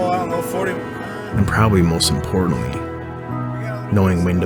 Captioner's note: voiceover